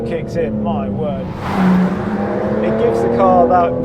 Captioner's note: car zooming